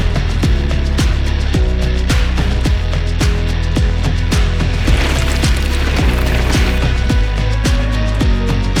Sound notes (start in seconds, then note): 4.4 bikes whoosh past